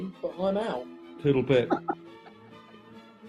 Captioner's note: giggling